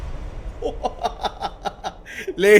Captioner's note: chuckles